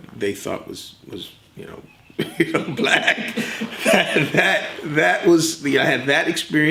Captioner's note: both laugh